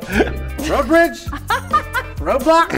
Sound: laughing

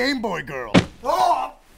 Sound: thwap!

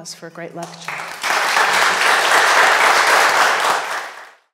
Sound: audience applauding

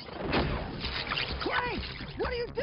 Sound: laser fire

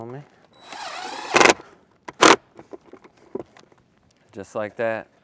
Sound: power tool whirring

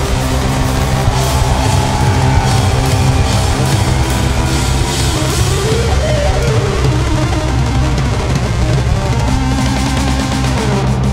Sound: audience cheers

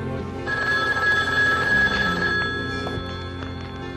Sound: phone ringing

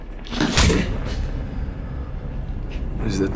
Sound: punching

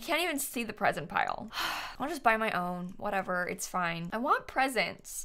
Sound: sighs

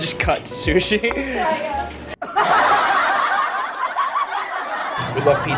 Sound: laugh track plays

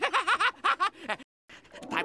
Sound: laughing

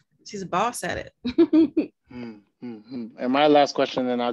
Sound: chuckles

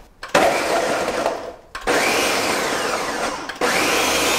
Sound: blender noise

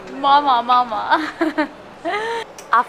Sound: giggle

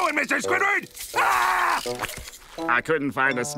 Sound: screaming

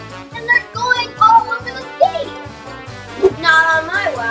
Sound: none

